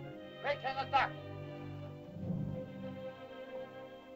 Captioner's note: Loana speaks in caveman language; Tumak speaks in caveman language; melancholy music